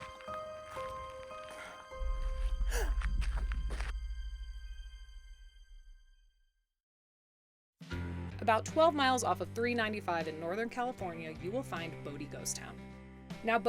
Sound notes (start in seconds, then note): 0.0 soft eerie music; 1.3 gasps